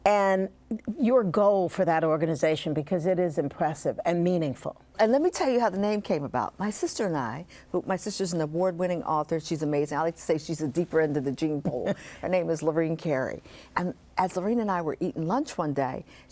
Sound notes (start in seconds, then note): 11.7 chuckles